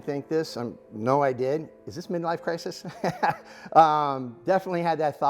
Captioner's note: laughing